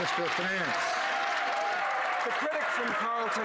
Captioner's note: some Applause